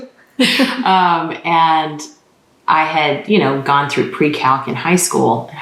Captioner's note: laughter